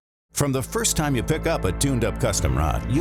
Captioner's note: voiceover